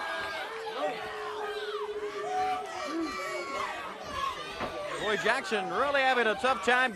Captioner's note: crowd cheering